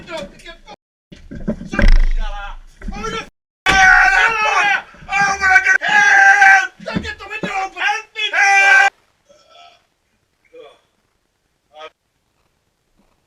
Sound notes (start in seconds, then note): 4.3 O'Rourke shouts; 9.4 burps